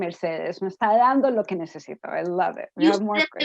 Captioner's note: spanish